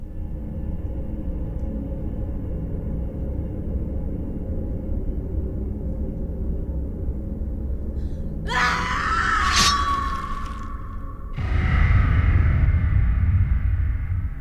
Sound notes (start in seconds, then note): 0.1 light dramatic music; 8.4 Kali screams; 11.5 dramatic music